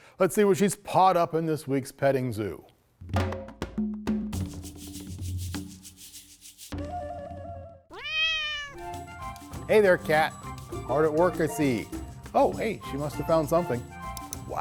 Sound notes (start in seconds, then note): 4.4 upbeat music; 7.9 cat meows